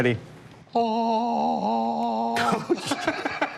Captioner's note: laughter